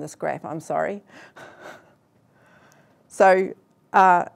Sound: laughs

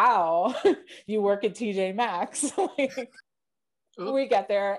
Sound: chuckles

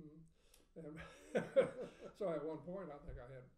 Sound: laughing

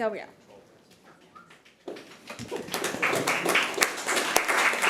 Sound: committee applauding

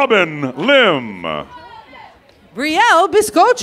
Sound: laughter

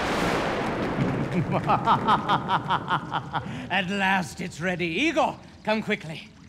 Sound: evil laughter

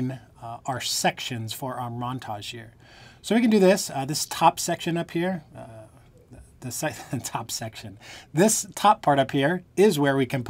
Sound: laughter

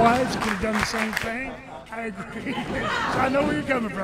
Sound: Len chuckling

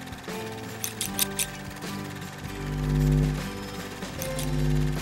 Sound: scissors snipping

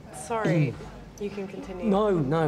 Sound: audio again becomes muffled and echoey

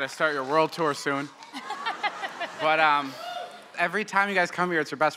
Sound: laugher

